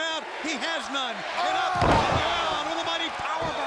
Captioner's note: body thudding